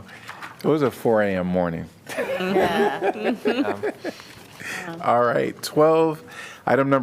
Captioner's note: laughter